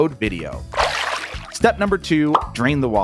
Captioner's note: water sloshing